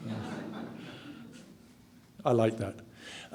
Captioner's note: audience laughs